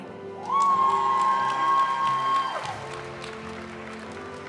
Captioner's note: audience cheering and applauding; graduation music